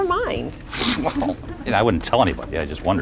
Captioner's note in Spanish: Laughs